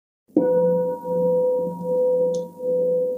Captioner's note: bell